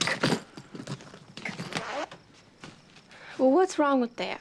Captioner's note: suitcase unzipping